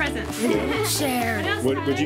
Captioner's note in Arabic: يضحك